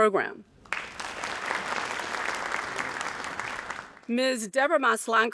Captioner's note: audience applauding